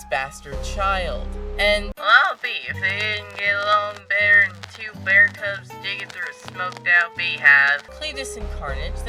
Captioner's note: southern accent